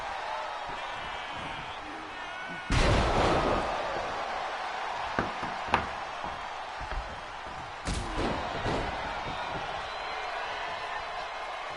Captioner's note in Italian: Applauso